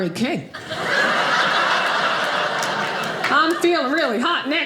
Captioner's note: audience laughing